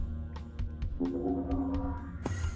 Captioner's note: gate opens